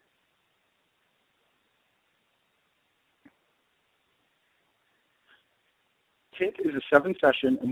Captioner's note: silence